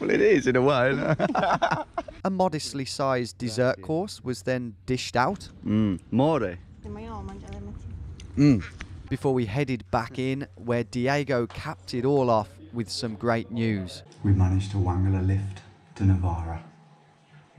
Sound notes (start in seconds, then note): 0.8 laughing; 0.9 both laughing; 6.5 speaking in a foreign language